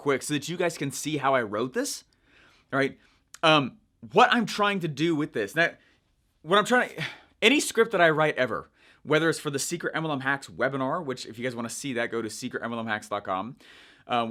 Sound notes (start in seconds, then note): none